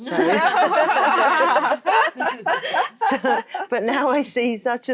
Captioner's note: all laughing